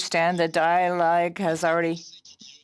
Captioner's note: speaking French